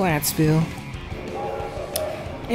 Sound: train whistle

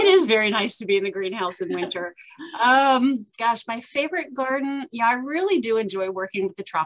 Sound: laughter

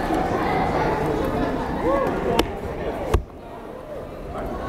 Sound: crowd chattering

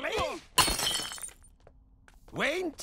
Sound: glass shatters

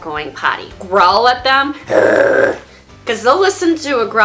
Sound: growl sound effect

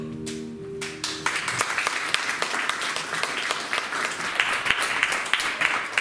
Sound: applause

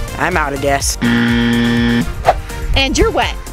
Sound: buzzer ringing

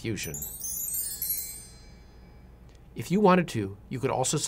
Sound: chiming

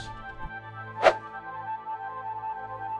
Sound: whoosh

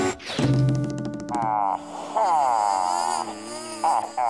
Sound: groaning

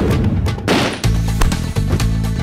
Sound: shot fired

